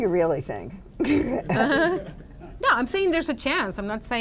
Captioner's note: laughter